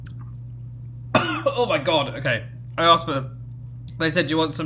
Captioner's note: coughs